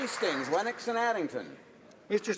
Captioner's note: some Applause